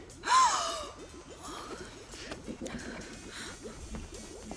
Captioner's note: gasps